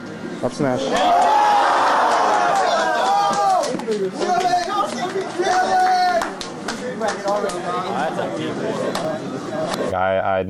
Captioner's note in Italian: la folla esulta